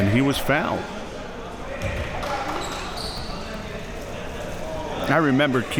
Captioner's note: audience chattering